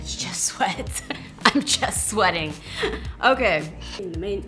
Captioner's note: laughs